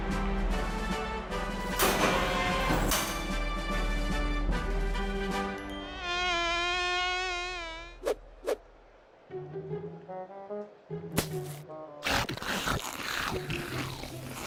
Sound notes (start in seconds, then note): 5.8 fly buzzes; 12.0 chewing